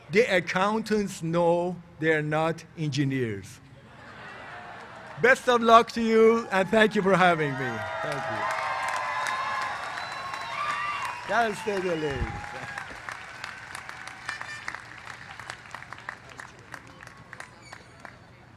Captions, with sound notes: THE ACCOUNTANTS KNOW THEY'RE NOT ENGINEERS. [LAUGHTER] BEST OF LOOK TO YOU, AND THANK YOU FOR HAVING ME. [CHEERS AND APPLAUSE] CAL STATE LA.